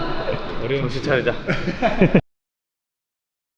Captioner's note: laughs